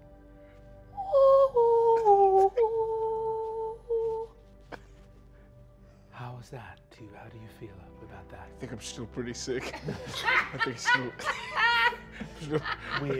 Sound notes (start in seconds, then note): 1.0 off-pitch humming; 9.6 laughing